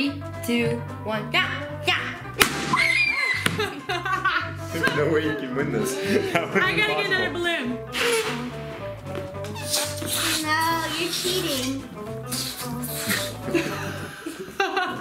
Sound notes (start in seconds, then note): 2.3 balloon pops; 9.5 air leaving balloon